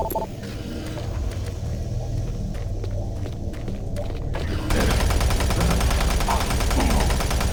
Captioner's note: beeping; gun firing